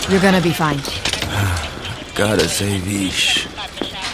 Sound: sigh

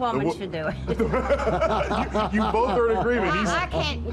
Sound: laughs

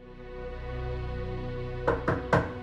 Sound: knock at door

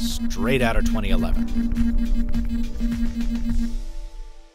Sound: phone buzzing

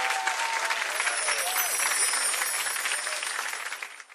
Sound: chimes

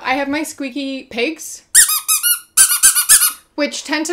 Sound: squeak squeak squeak

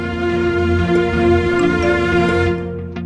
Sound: phone message tone

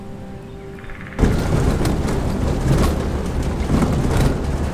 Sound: car rumbling

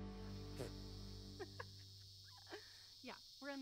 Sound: insects trilling; chuckling

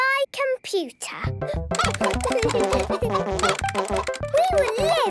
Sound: computer game chickens clucking; keyboard tapping

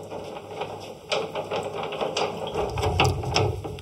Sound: clatter

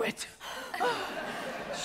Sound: audience laughs

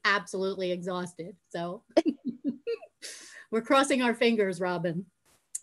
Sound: laughing

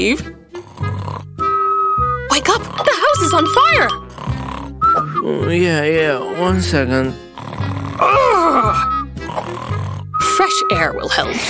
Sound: snoring

